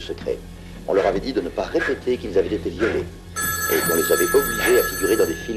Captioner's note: phone rings